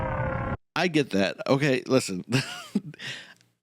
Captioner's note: laughs